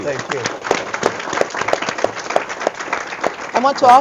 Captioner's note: audience clapping